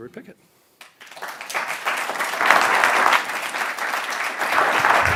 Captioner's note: attendees applauding